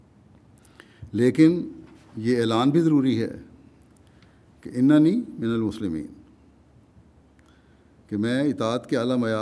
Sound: Arabic

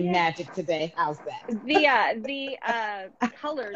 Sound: laughing

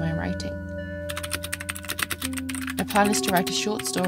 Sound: very satisfying clicky keyboard noises

